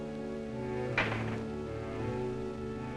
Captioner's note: door slams